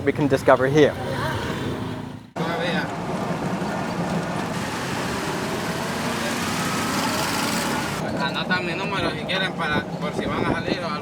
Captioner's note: local traffic noise, tuk-tuk, motorcycles